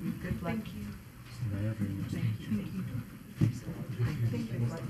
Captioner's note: people chattering